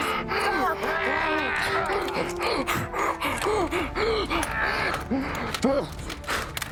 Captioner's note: panting; shouts